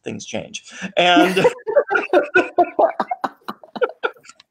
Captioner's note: laughing